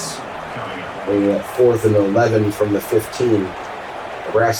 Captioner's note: crowd Noises